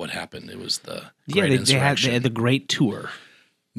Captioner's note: sarcasm